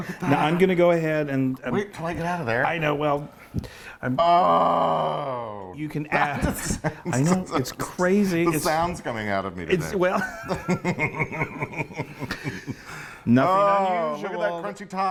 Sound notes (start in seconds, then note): 4.1 exclaims excitedly; 10.1 both laughing